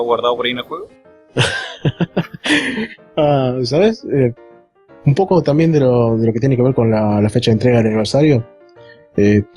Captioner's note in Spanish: risas